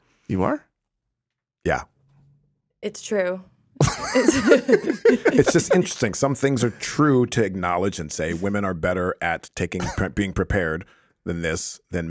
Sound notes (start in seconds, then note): 3.8 Justin and Liz laughing